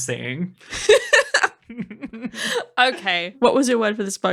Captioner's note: chuckling